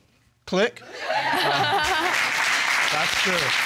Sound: audience laugh; chuckles

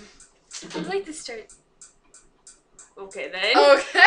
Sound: door slam

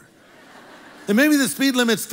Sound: congregation laughs

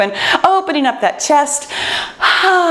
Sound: exhales

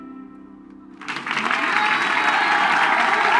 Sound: cheers and applause

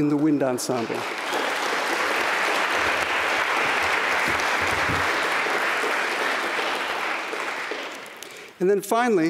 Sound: applause

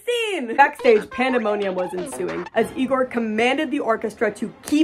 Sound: sounds of cartoonish chaos

